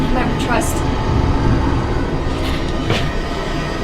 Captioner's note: demon snarls